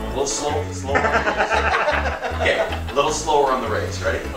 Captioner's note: laughter